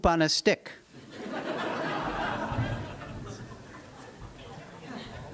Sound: laughter

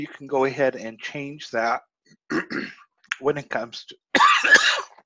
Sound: cough

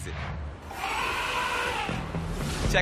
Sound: roaring

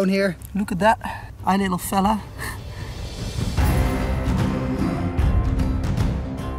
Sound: laughs

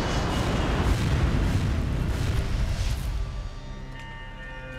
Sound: plane engine roars

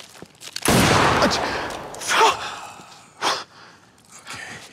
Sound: gun firing; civilian breathing heavily

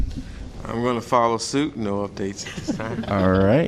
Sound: laughter

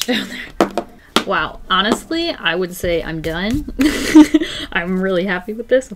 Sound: laughs

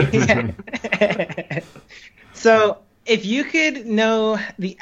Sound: laughs

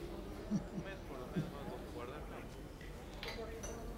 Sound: chuckling

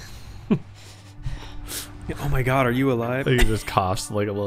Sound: coughs

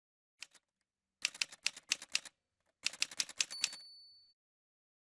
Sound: typewriter sounds

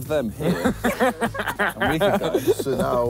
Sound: all laughing

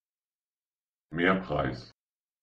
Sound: fast Pronunciation

